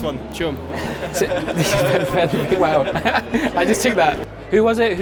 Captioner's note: group laughing